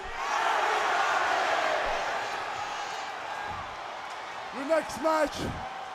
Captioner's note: crowd chatter